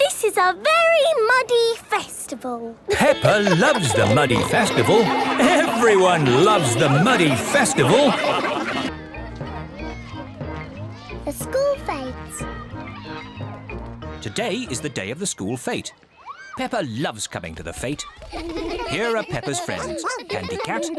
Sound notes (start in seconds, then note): 2.9 laughing; 8.9 children exclaiming playfully